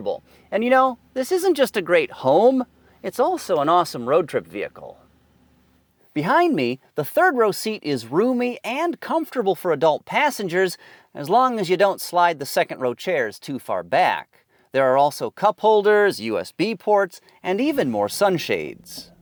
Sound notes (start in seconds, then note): none